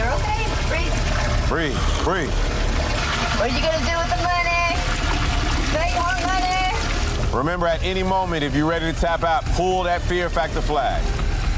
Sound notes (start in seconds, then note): 2.6 water splashing; 11.3 urgent music; 11.3 water splashing